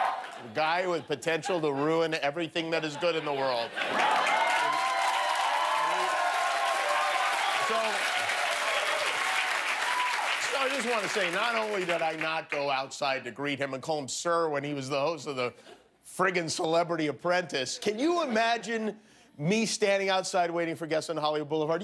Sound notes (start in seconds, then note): 12.1 cheers and applause